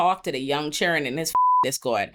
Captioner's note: beep